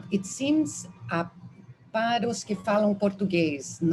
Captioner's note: speaking Portuguese